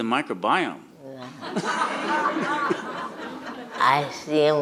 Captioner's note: audience laughs